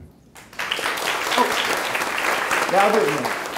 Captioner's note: clapping